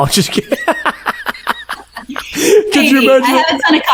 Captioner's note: both laughing